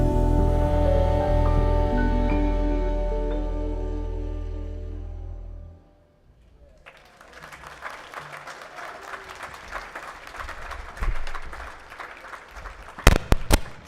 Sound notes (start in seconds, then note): 6.7 audience clapping